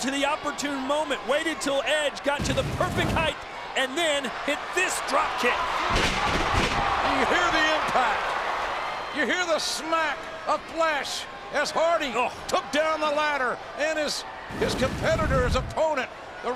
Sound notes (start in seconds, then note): 6.5 bodies thud